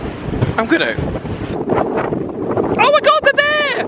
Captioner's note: wind blowing hard